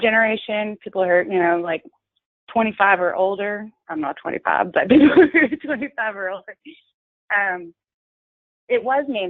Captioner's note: laughter